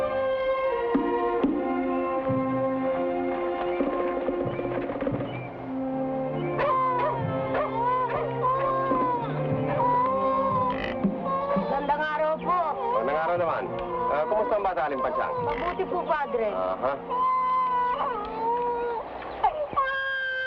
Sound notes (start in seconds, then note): 5.6 birds chirp; 6.4 dogs bark; 7.4 infant cries; 12.0 people speaking in Tagalog; 17.1 infant cries